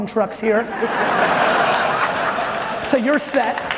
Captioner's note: audience laughing loudly